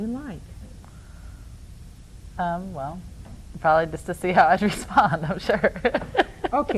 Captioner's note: laughs